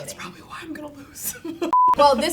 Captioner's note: laughs